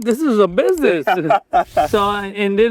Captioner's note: laughs